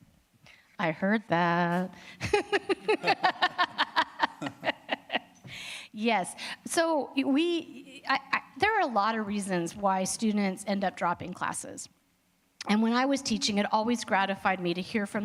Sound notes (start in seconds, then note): 2.2 laughter